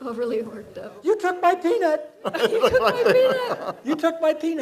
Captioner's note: laughs